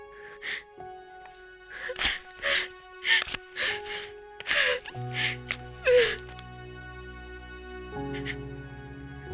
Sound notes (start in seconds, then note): 1.7 sobbing